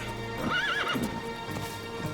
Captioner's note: horse whinnies